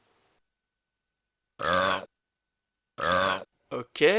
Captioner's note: burps